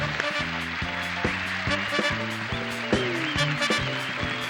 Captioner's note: applause